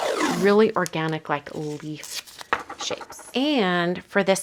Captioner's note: tape ripping; tape roll rattling